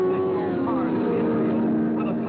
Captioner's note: car revving